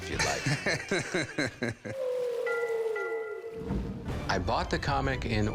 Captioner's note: laughing